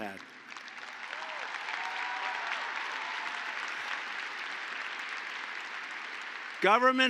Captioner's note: applause